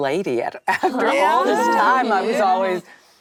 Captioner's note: actresses reacting